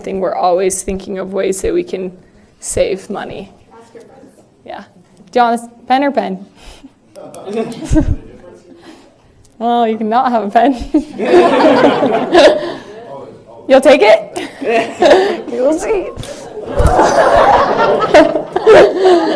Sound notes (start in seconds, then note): 7.4 laughter